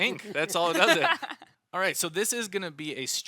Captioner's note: laughs